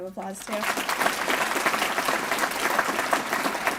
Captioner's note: applause